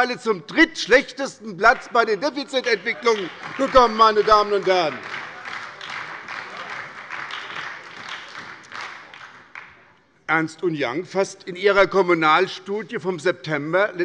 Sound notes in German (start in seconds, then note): 2.5 Beifall bei der SPD